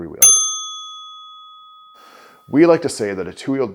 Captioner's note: bicycle bell sound